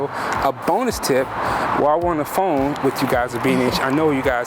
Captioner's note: laughs